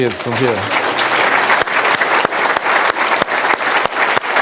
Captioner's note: applause